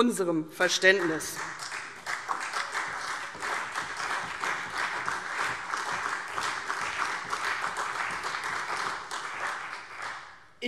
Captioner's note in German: Beifall CDU, vereinzelt BÜNDNIS 90/DIE GRÜNEN und Freie Demokraten